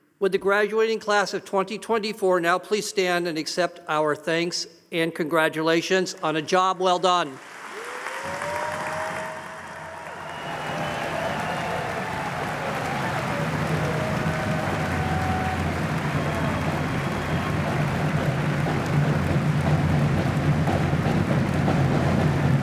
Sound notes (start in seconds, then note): 7.8 audience applauding